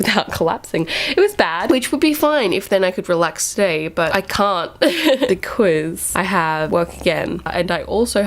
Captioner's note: laughing